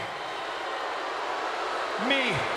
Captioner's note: crowd boos